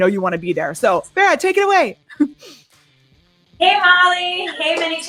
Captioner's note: laughs